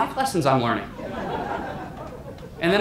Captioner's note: audience laughter